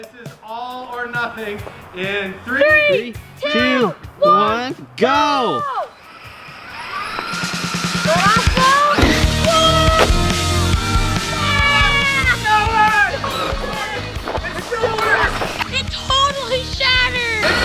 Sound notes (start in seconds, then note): 5.9 RC truck accelerating; 8.8 upbeat rock music; 11.4 all exclaiming